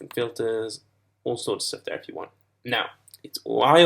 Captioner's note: none